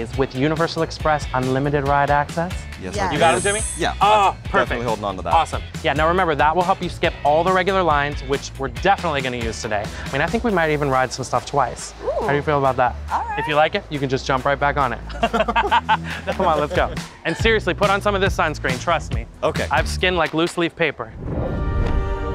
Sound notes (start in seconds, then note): 15.0 all laughing